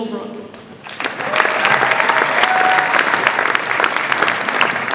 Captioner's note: audience applauds